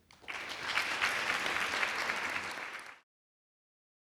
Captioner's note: audience claps